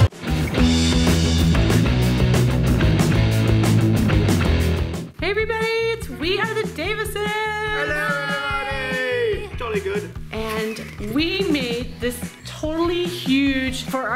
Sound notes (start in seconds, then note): 0.3 energetic rock music; 10.3 laughs